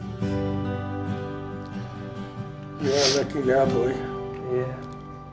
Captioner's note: sniffling